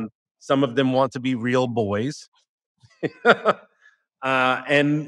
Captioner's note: laughter